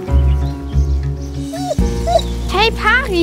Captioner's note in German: Winseln